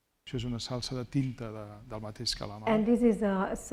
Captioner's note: speaking spanish